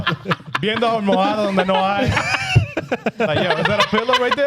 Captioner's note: laughing; speaking In Foreign Language